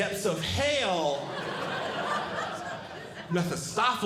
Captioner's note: audience Laughing